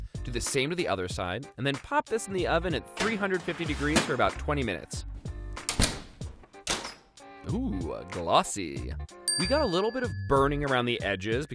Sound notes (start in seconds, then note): 5.7 oven door clicking; 9.2 dings